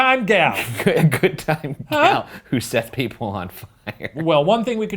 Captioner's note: laughing